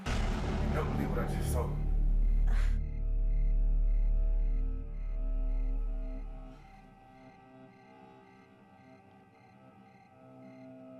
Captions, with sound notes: Jada, you'll never believe what I just saw. - Uh? (tense music) (crickets chirping)